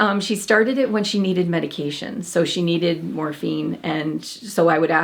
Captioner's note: none